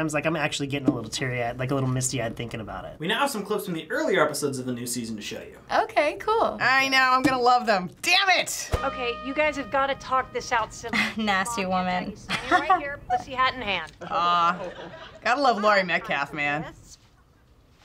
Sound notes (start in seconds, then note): 12.3 chuckles